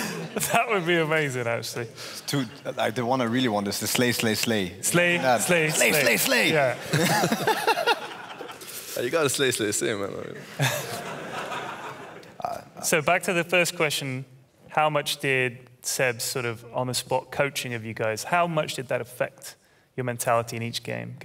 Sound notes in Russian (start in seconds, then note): 6.4 смех; 10.4 смех